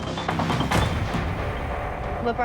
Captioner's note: energetic music; slam